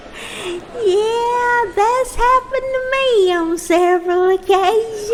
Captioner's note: laughs